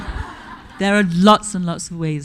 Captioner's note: audience laughing